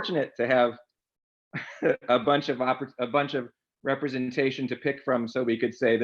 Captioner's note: laughs